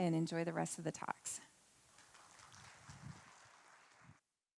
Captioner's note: applauding